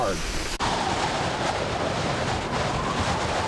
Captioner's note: wind howls